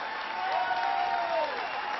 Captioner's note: applause